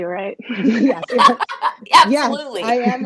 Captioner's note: laughs